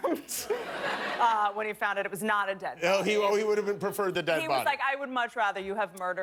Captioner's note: laughter